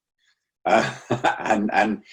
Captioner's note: laughing